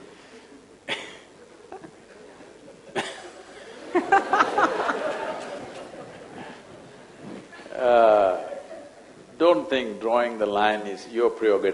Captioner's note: laughs